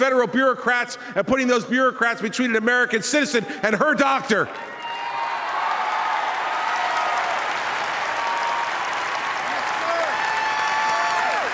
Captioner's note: applause